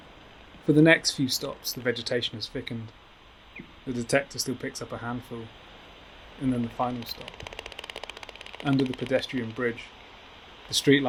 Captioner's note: bat call like blowing raspberries